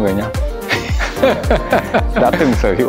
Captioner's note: laugh